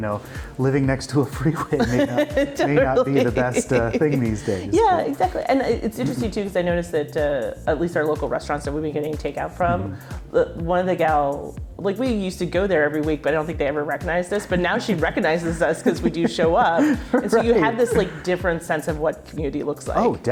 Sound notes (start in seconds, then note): 1.5 laughing